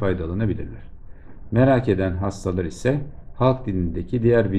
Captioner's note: in Turkish